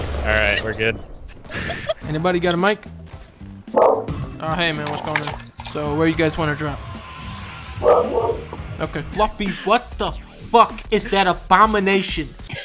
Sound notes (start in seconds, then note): 1.3 laughing; 3.7 dog Barking; 7.8 dog Barking Twice